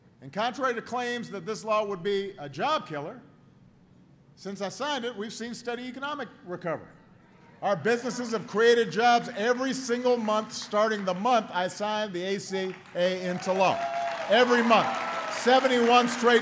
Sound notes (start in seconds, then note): 13.3 applause